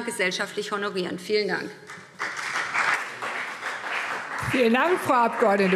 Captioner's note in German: Beifall BÜNDNIS 90/DIE GRÜNEN und CDU